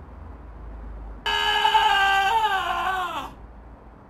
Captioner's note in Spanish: grito